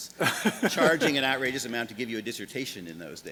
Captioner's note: laughs